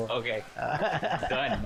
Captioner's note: laughs